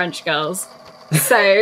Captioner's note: laughs